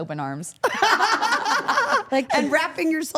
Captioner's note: all laughing